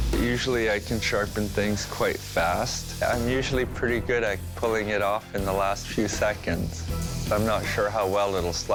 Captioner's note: none